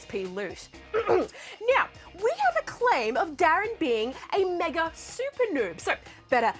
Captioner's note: clears throat